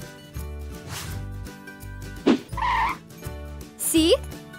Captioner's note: whooshing sound